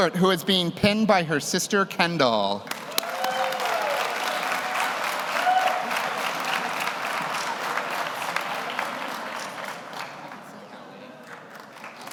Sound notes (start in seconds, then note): 2.6 audience applauds; 2.7 audience cheers